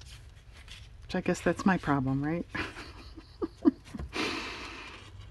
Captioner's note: laughs